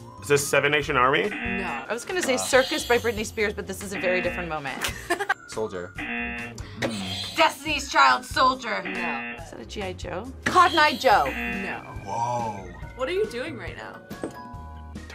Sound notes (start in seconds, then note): 0.0 buzzer rings; 1.2 buzzer; 3.8 buzzer; 5.9 buzzer; 8.7 buzzer; 8.7 buzzer rings; 10.5 buzzer; 10.5 buzzer rings